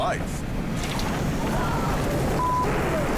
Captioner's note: wind howls